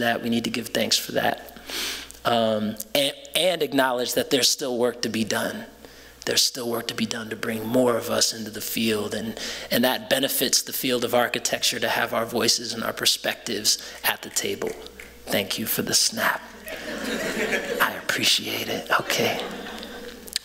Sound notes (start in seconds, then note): 14.8 snapping; 16.6 laughter